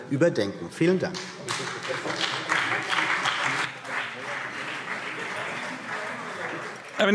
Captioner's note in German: Beifall CDU und BÜNDNIS 90/DIE GRÜNEN